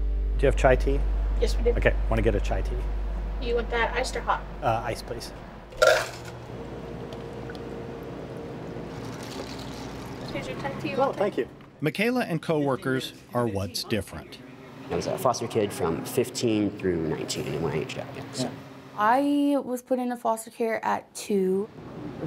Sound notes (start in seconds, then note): 5.8 ice filling cup; 7.3 liquid pours